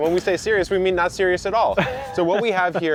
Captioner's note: man laughing